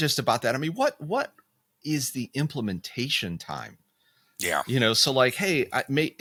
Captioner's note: laughing